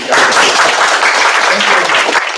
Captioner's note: applause